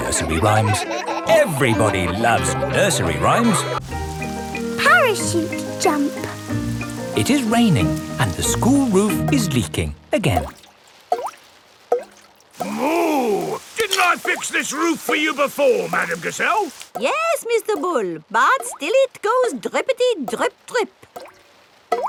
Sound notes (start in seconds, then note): 11.6 water dripping